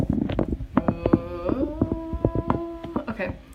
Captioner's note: humming